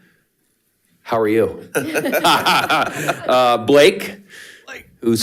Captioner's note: participants laughing